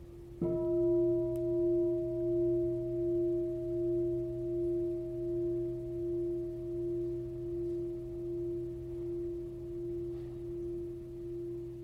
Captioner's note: bell sounds